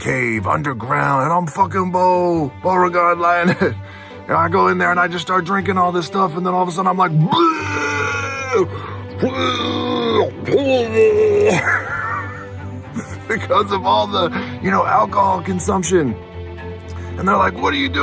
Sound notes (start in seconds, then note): 7.2 vomiting sounds; 11.7 laughs